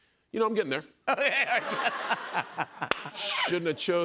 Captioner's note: laughter